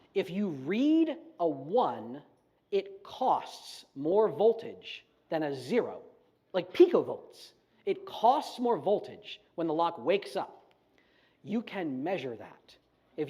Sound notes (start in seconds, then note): none